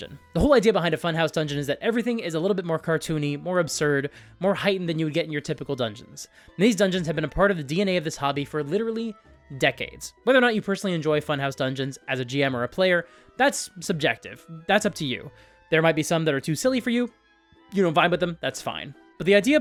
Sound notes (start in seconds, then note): none